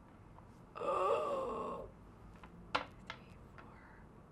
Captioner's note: groan